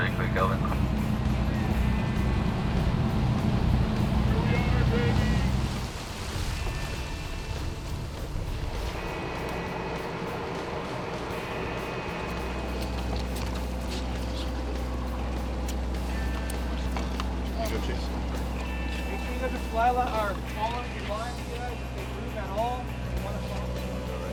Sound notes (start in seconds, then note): 0.1 man On Radio; 6.9 waves crashing; 13.9 water splashes